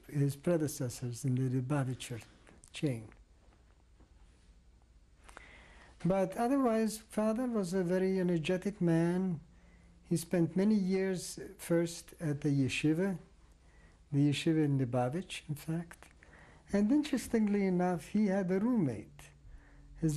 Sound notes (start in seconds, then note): 3.0 pauses for 3 seconds